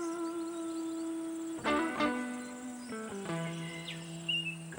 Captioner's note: birds chirping